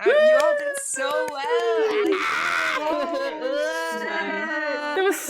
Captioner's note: happy noises and clapping